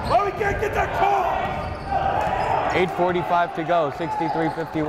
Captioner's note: yelling